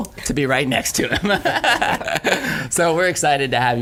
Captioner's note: laughing